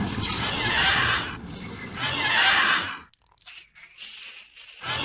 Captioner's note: Ungodly cry of the Great Tentacled Beast of Del’Kutlz’na